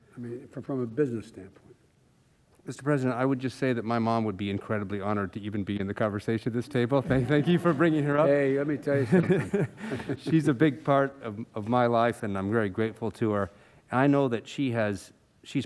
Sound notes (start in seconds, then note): 8.7 laughter; 8.8 laughs